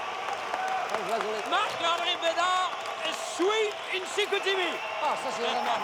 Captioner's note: speaking foreign language